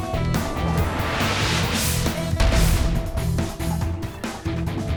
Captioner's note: graphic swooshes